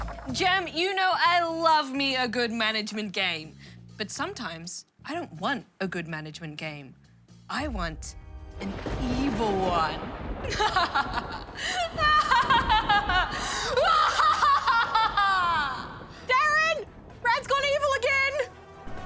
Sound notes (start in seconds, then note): 9.1 thunder cracks; 10.4 laughs evilly